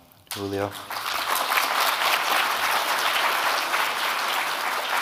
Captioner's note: audience clapping